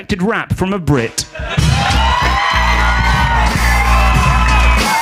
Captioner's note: audience applauds